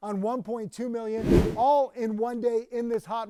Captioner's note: wind whooshing